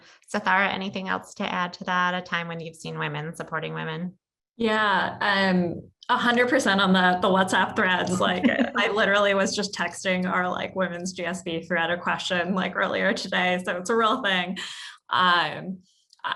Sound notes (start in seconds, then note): 8.0 laugh